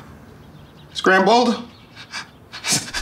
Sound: heavy breathing

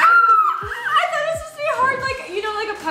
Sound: screams

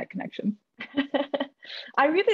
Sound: laughs

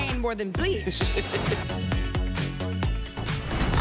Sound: laughs

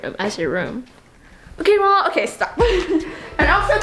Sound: laughing

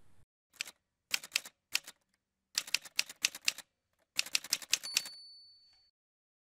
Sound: typewriter sounds

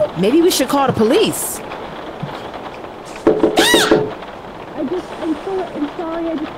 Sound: knocks and muffled voice continue

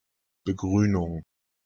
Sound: fast Pronunciation

